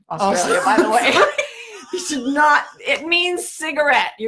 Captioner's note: laughing